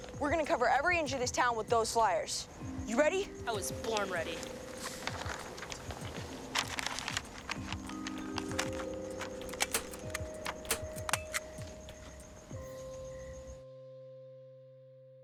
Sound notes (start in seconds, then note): 8.1 soft expectant music; 9.2 stapler clicking